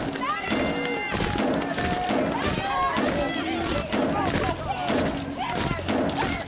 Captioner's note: metal banging continues; people shouting continues